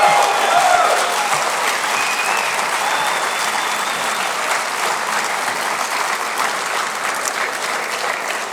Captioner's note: audience cheers and applause